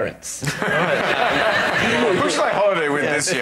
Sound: laughter

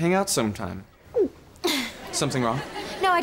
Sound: gulping

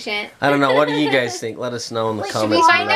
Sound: laughing

